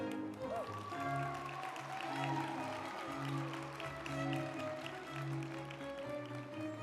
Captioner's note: group applauding; uplifting music